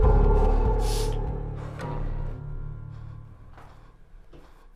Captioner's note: Sammy exhaling heavily